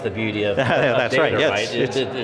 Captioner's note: laughing